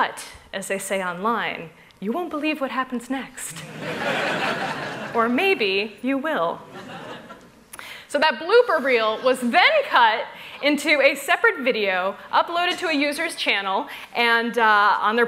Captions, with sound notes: But, as they say online, you won't believe what happens next. [laughter] Or maybe you will. So that blooper reel was then cut into a separate video, uploaded to a user's channel, on their